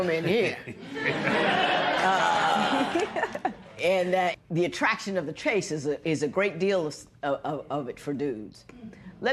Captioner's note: laughter